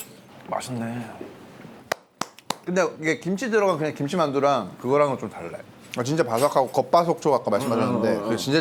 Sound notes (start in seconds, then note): 2.2 clap clap clap👏